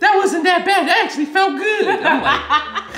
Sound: laughing

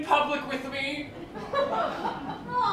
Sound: laughter

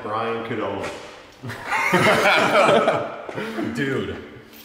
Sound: laughs

